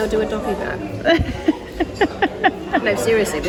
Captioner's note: laughs